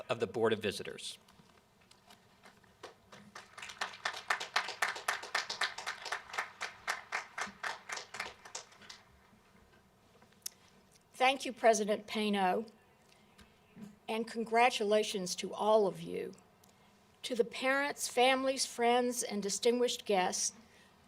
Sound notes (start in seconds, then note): 2.7 applause